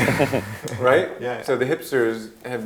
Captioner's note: laughing